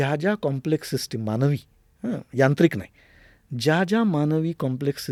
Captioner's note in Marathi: घसा साफ करणे